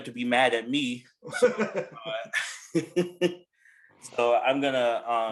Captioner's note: laughs